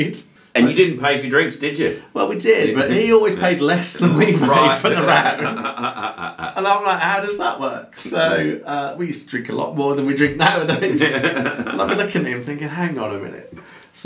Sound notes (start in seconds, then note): 4.2 both laughing; 10.5 laughing